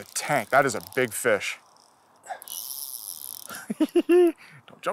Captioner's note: giggles